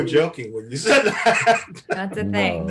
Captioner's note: Eric laughs